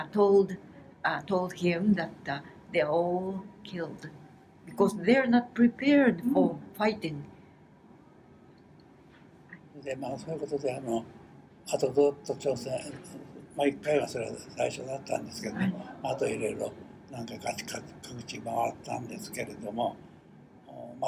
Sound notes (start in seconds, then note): 7.7 foreign language